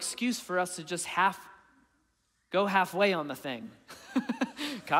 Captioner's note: chuckling